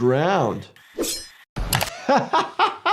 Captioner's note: doctor laughs